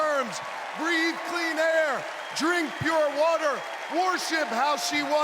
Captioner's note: cheers and applause